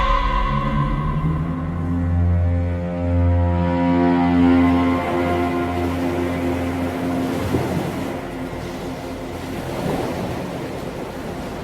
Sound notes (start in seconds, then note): 0.1 dark music continues; 6.5 waves crashing